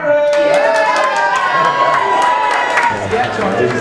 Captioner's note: audience cheering